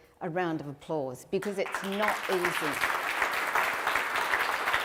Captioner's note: applause